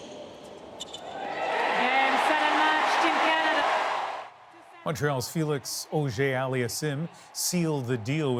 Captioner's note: cheers and Applause